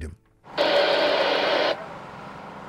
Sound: radio static

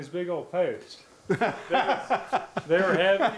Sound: laughing

